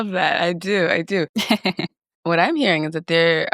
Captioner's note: laughs